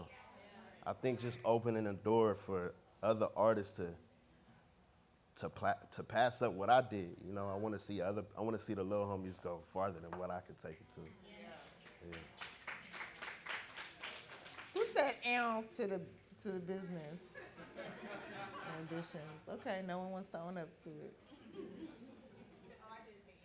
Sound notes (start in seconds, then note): 11.6 audience clapping